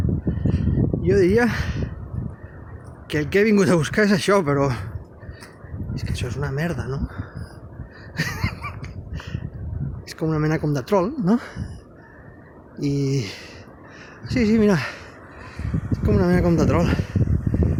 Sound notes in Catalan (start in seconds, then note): 8.0 Riure nerviós